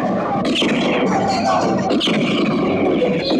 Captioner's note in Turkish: Silah sesleri